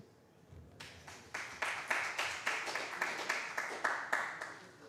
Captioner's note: applause